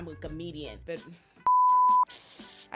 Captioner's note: beep